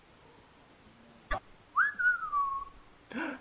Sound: whistling

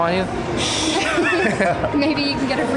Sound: all laughing

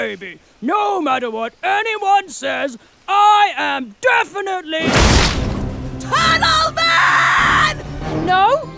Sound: Linda, yelling

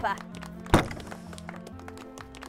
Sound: gate bangs

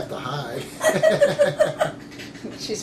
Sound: laughter

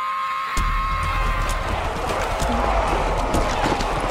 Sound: screams

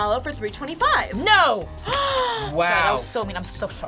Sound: React gasps

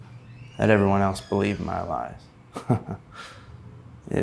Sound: giggling

